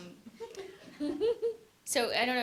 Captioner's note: laughter